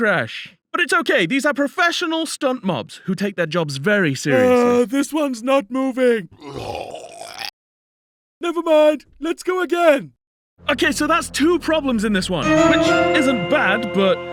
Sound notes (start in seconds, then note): 6.3 ugghahgh; 12.5 ding ding